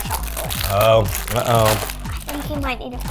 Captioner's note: packaging crinkles